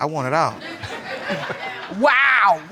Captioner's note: all laughing